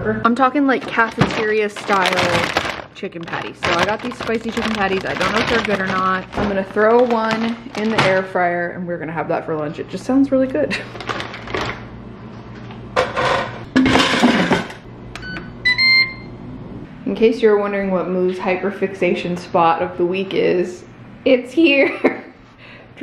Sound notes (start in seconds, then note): 13.0 air fryer clatters; 15.1 air fryer beeps; 22.1 chuckles